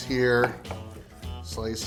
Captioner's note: slicing